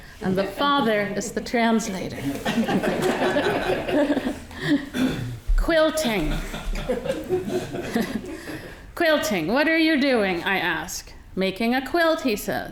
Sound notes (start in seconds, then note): 1.8 audience laughing